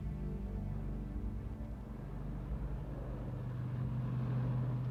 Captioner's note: traffic whirring